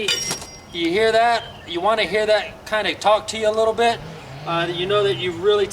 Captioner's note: metal grinding sound